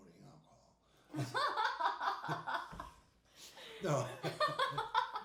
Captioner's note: laughing; laughing